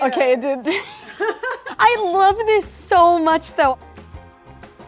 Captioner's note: laughs